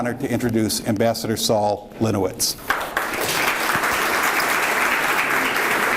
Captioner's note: audience claps